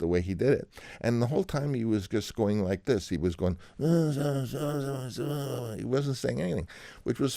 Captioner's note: imitating Italian accent